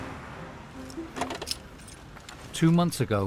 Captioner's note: water swooshing; immobilizer clattering